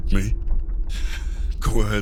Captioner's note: scoffs